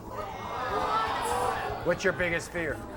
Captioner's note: audience groans